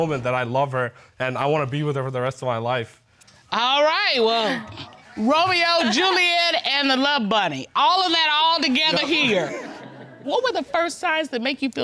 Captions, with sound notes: that I love her and I wanna be with her for the rest of my life. All right. Well, Romeo, Juliet, and the love bunny. -All of that altogether here. -[audience laughing] What were the first signs that make you feel